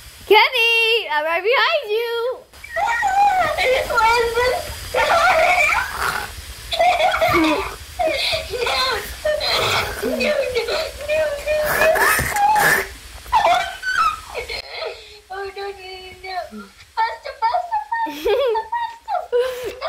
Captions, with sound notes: Kenny I'm right behind you! (Screams) Oh no! Faster, Faster, Faster!